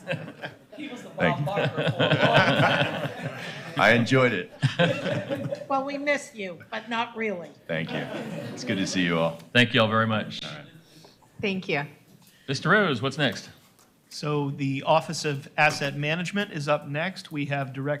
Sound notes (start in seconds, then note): 7.8 laughter